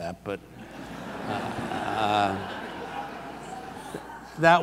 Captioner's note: audience laughs